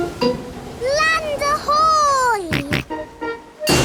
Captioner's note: snorts